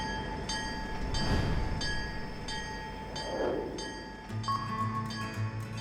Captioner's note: bell clanging